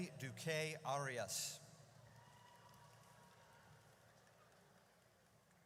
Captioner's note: audience cheers